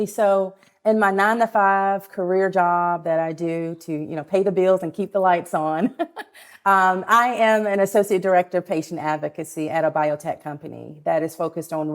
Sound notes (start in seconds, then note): 5.8 laughs